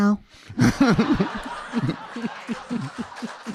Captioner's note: audience laughing; audience clapping